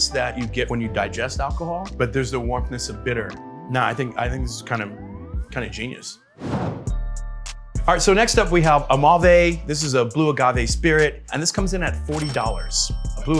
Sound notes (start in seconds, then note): 6.4 graphic whooshes; 6.7 mellow music; 12.4 register bell rings